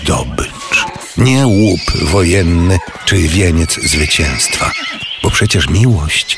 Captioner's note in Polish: koń rży